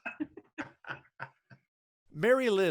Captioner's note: laughing loudly